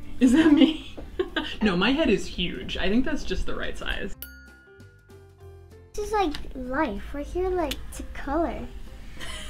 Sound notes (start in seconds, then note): 4.2 bell dinging